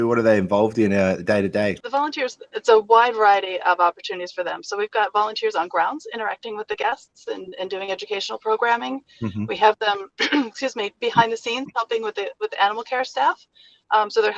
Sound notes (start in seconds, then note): 9.2 coughs